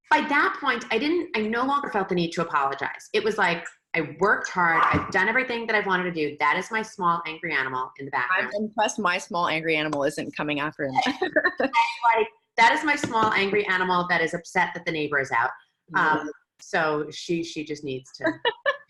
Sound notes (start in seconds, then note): 6.3 dog barking; 11.0 laughs